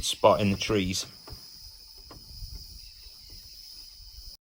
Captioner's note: jungle noises - birds and insects